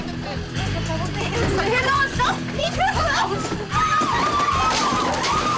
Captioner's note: women speaking in foreign language; women screaming